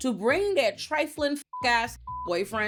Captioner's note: beep